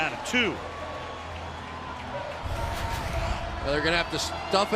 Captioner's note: pa announcement